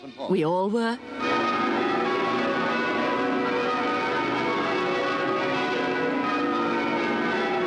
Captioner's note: bells toll